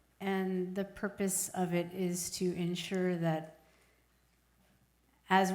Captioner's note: none